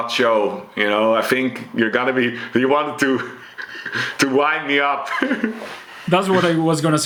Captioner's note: chuckles